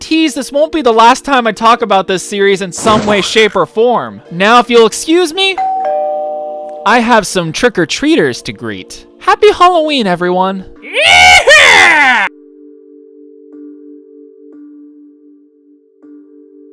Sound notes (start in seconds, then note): 5.6 doorbell